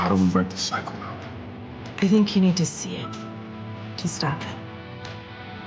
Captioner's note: none